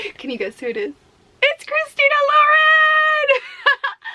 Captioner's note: laughs